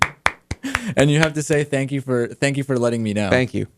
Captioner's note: applause; laughs